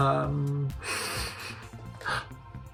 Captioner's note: sniffing